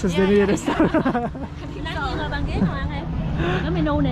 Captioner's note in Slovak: smiech